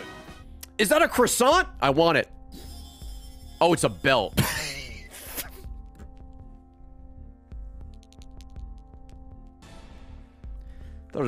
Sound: laughs

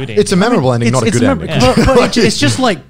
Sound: laughing lightly

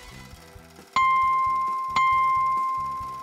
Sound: dings

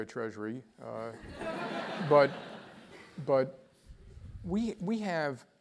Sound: laugh

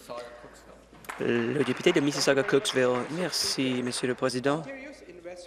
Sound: applause

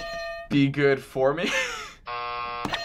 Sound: hitting bell; buzzer; hitting bell

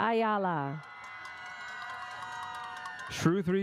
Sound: audience cheers

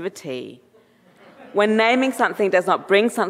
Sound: audience laughing

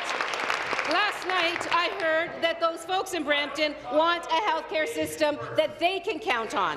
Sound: applause

